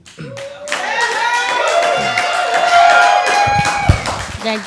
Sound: cheers and applause

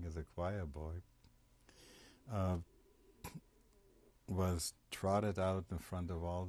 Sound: pauses for 3 seconds

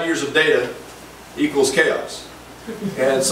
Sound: group laughs

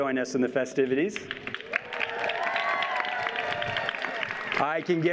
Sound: audience cheers and applauds

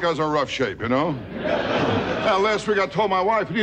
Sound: audience laughing

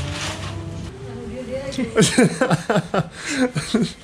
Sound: laughing

